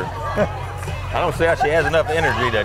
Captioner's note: person laughs